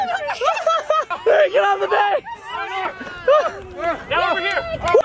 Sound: laughs

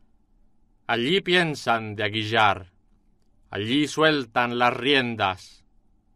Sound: speaking in foreign language

